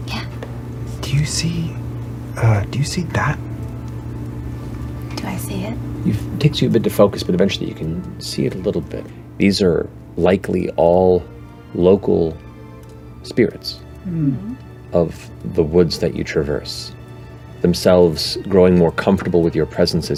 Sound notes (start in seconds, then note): 0.2 whispers